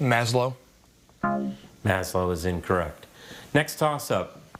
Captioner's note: scoreboard buzzes